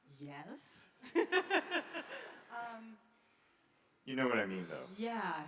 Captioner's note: laughing